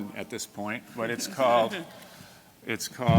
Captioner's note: laughter